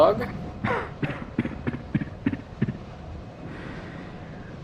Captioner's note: coughing